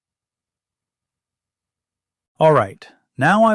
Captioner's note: pause